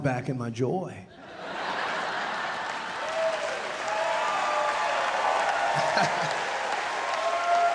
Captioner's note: audience laughing, cheering and applauding